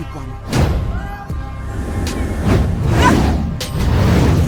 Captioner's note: wind whooshes; Sycorax crashes